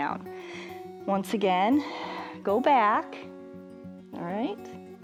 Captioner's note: exhales